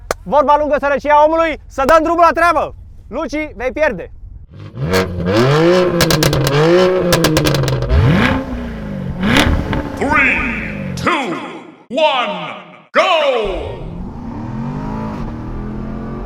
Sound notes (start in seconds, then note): 4.9 exhaust sounds; 10.2 deep voice